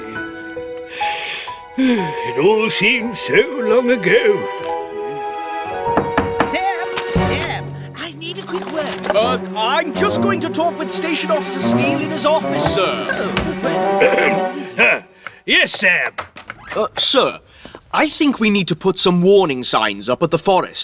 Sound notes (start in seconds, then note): 0.8 heavy Sigh!; 5.7 knocking at Door